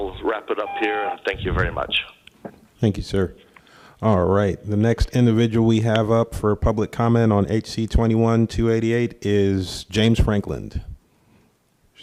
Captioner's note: tone